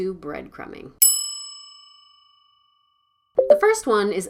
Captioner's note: bell rings